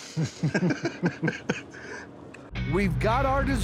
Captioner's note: both chuckling